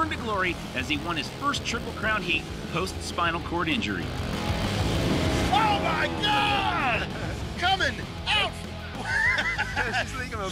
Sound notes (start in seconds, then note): 4.6 engines revving; 8.5 laughs